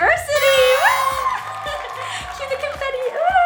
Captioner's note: cheering